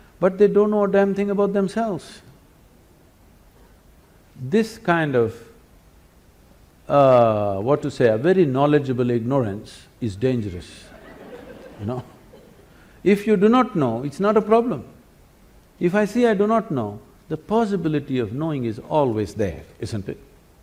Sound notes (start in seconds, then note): 10.7 laughter